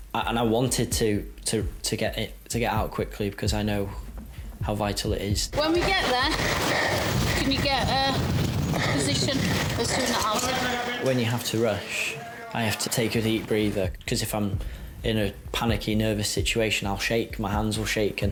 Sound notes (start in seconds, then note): none